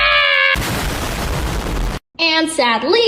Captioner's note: Formidi-Bomb detonates